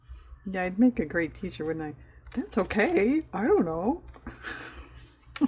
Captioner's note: laughs